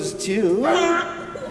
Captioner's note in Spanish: honk